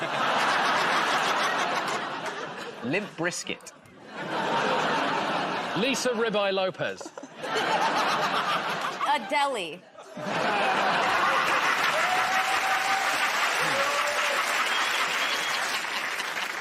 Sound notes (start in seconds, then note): 0.0 laughter; 12.8 cheers and applause